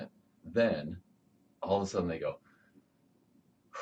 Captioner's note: exhales